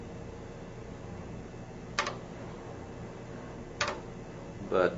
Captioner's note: keys clacking